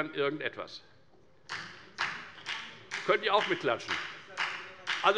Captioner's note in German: Beifall bei der FDP